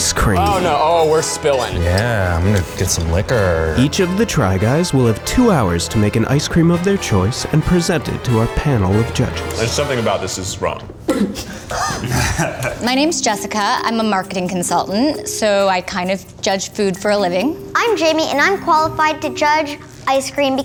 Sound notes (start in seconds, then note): 11.2 guys laughing